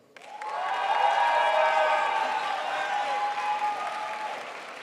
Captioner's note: crowd applauds